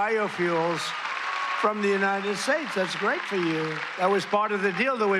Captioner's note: cheers and applause